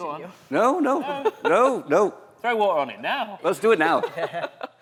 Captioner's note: laughter